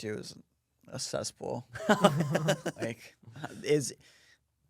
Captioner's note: laughs